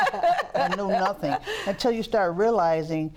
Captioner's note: laughter